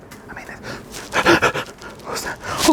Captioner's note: exclaiming in fear